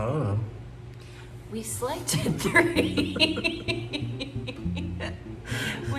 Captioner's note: laughter